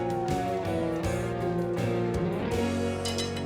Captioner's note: siren wailing